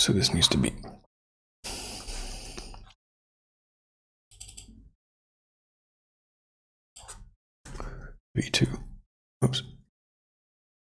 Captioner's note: blank Audio